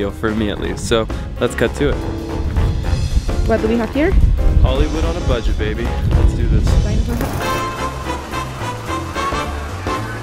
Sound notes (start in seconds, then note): 4.0 woman speaks foreign language; 7.6 upbeat music